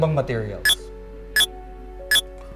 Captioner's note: Mind-blower beeps